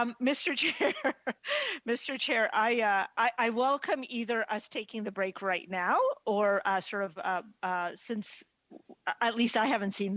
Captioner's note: laughter